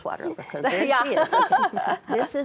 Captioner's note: all laughing